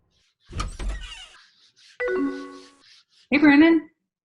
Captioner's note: AIM door opening sound effect